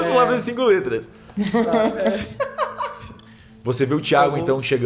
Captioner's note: laughing